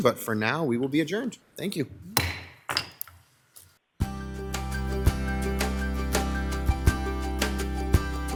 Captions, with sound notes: but for now, we will be adjourned. Thank you. (object banging) (upbeat music)